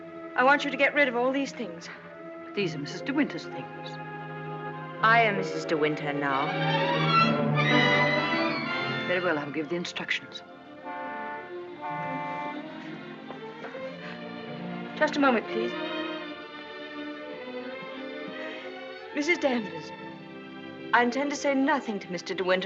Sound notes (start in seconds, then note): 10.8 car honking